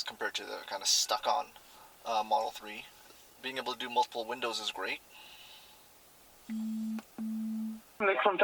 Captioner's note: phone vibrates